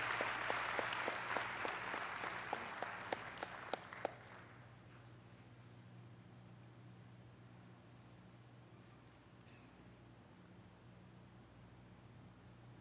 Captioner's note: applause